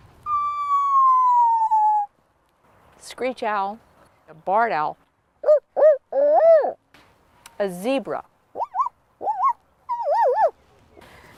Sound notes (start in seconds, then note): 0.2 makes screech owl noise; 5.4 makes barn owl noise